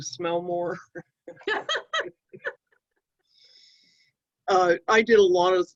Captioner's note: chuckling